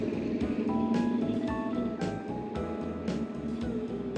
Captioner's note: engine revving